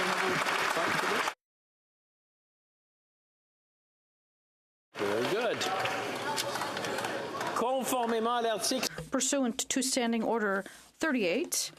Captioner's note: applause